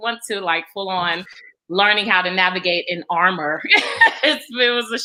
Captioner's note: laughs